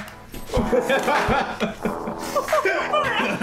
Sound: laughing

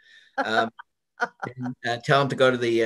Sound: laughs

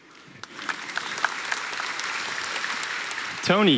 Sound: applause

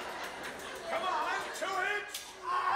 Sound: audience laughing

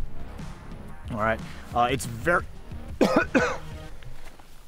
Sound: coughs vehemently

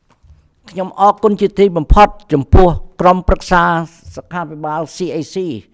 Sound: speaks in Khmer language

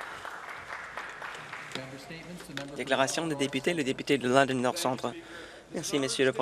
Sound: some Applause

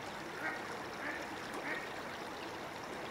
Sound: ducks quacking

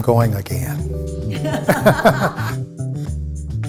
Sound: laughter

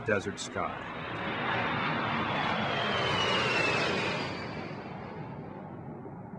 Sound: sound of large jet passing overhead

